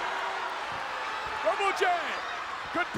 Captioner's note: audience cheering